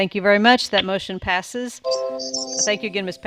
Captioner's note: computer tone dings